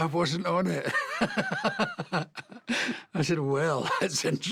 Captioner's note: laughing